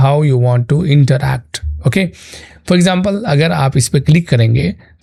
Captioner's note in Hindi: नाक से की जाने वाली आवाज़